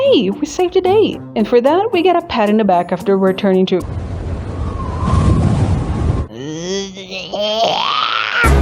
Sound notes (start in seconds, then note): 3.8 wind sfx; 6.4 dying screaming gobling noise